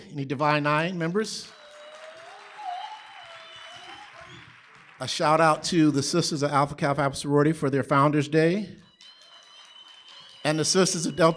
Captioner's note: applause